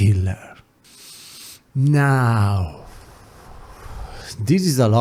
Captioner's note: exhale; inhale